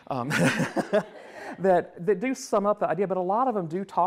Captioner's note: laughs